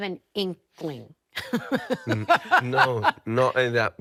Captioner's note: laughing